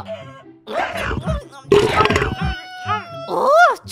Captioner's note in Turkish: Yemek yeme sesi